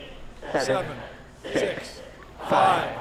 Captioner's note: crowd